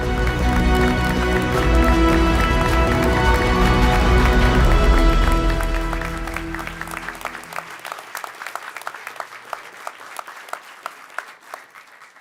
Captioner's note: clapping